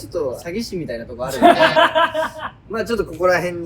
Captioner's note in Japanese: 笑い声